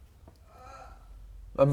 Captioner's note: cry of pain